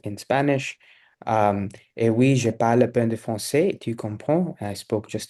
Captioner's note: speaking in French